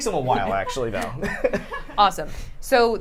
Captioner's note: laughter